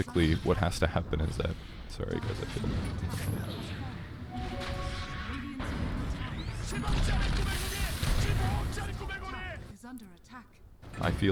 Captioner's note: loud Dota 2 noises